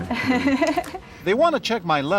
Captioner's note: laughter